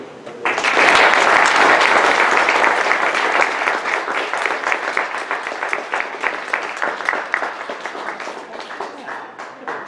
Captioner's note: audience applause